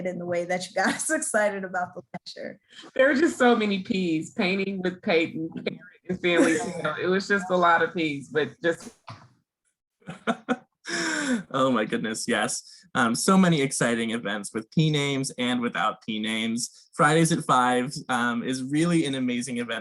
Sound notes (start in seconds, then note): 10.1 laughing